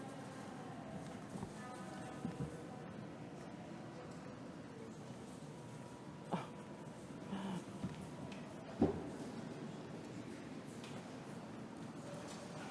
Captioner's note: background Discussion